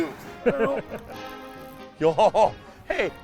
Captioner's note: laughter